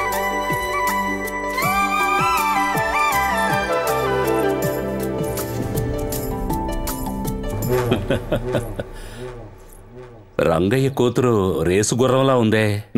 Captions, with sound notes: (Laughs) Rangayya's daughter is very hot.